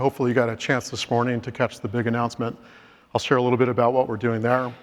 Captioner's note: inhales